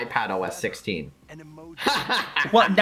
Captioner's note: laughs in feature disparity